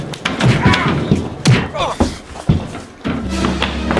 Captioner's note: dillon and butler grunting